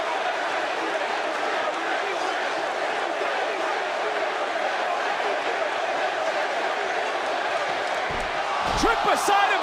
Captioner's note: crowd chants